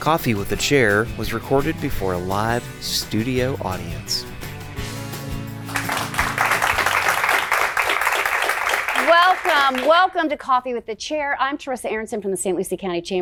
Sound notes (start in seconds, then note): 0.0 upbeat music; 5.6 applause